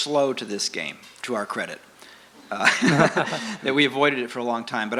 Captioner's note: laughs